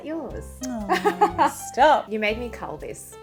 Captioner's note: chuckles